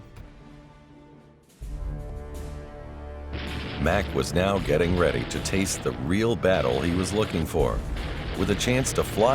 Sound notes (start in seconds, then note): 3.3 machine gun cracking